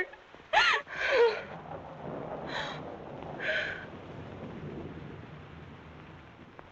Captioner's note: thunderclap; sobbing